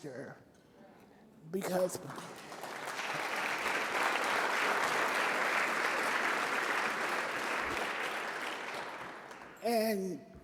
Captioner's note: applause